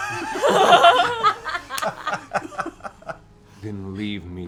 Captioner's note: laughter